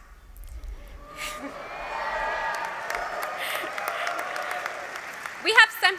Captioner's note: cheers